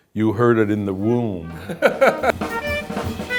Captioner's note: laughs; cool jazz music